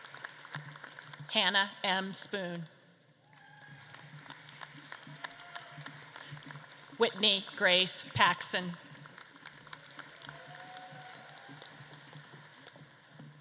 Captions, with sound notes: Hannah M. Spoon. (audience claps and cheers) Whitney Grace Paxson. (audience claps and cheers)